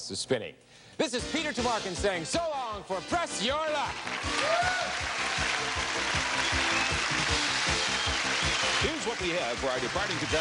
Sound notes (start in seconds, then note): 3.6 cheering and applause